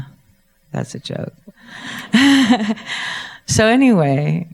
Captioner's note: laughs